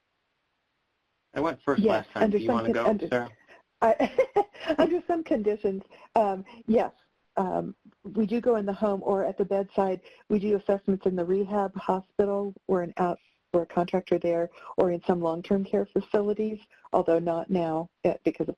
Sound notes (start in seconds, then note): 3.8 laughs